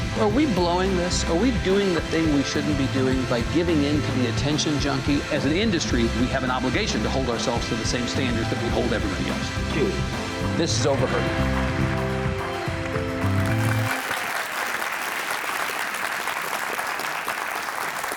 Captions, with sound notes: Are we blowing this? Are we doing the thing we shouldn't be doing by giving into the attention junkie? As an industry, we have an obligation to hold ourselves to the same standards that we hold everybody else. This is "Overheard." (upbeat music) (audience applauding)